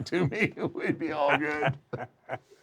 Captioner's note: laugh